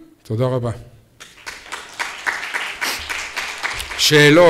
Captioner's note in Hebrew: מחיאות כפיים